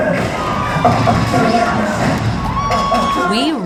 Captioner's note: cheering